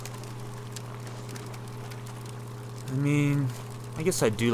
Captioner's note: fire crackles